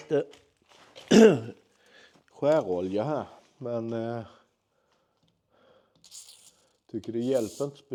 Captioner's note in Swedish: harklar sig